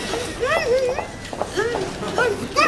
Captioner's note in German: Gedämpfte Schreie